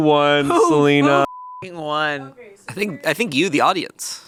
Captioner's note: beep